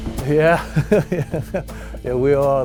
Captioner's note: laughs